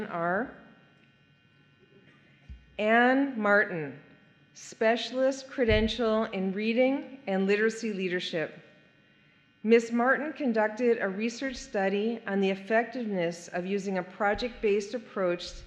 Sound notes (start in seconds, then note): none